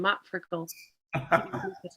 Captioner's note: laughs